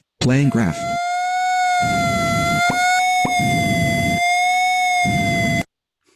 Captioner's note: high Pitched Whining Sound